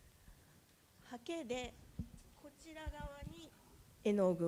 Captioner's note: speaking japanese